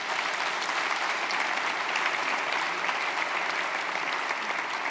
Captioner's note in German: Applaus